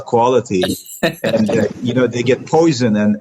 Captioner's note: laughing